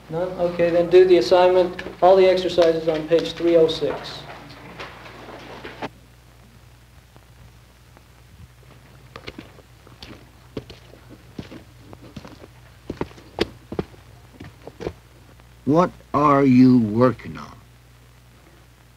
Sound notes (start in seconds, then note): 8.4 footsteps approaching